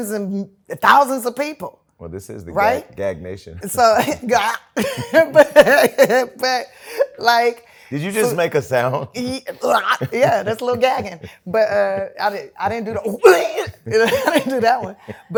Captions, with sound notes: and thousands of people. Well, this is the gag nation. So-- [GAGS] [LAUGHS] but like-- Did you just make a sound? [GAGS] Yeah, that's a little gagging. But I didn't do the [RETCHES] I didn't do that one.